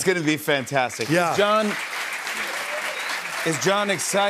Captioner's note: cheers and applause